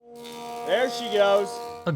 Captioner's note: wood cutting